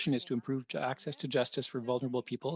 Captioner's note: speaking French